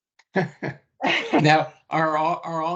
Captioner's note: laughing